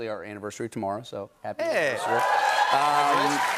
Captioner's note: cheers and applause